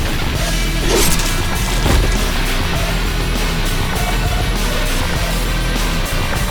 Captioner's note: knife whooshing; flesh squelching; intense heavy metal music continues